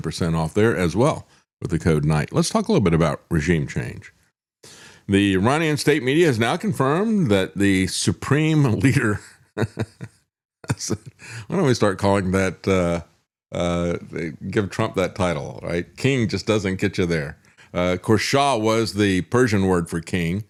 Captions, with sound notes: off there as well with the code night. Let's talk a little bit about regime change. The Iranian state media has now confirmed that the Supreme Leader, (Laughs) why don't we start calling that, give Trump that title, right? King just doesn't get you there. Of course, Shah was the Persian word for king.